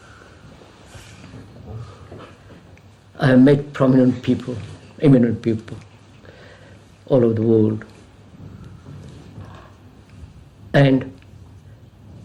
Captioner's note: laughs